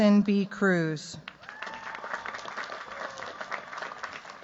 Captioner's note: cheers, applause